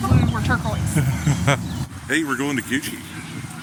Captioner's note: chuckling